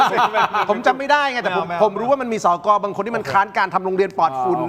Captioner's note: laughter